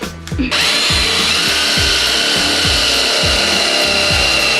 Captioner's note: electrical drilling